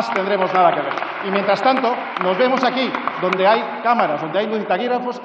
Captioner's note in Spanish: Aplausos